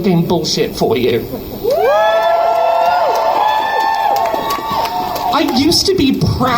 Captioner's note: crowd cheers